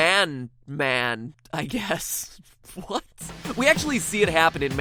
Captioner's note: laughing